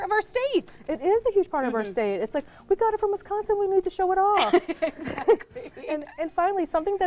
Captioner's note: laughing